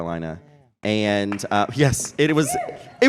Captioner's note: applause